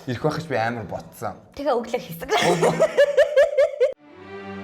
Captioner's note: laughs